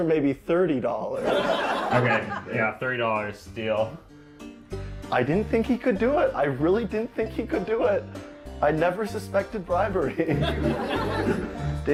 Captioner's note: audience laughter; laughs